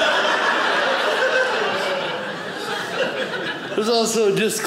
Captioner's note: audience laughing